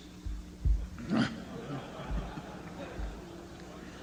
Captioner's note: laughter